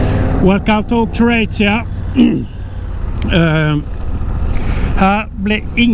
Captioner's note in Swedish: harklar sig